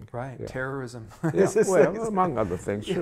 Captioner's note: laughs